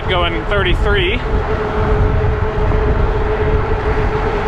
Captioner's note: wheels whirring